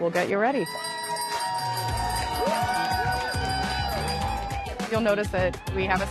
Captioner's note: bell ringing, cheering